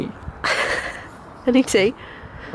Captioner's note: laughs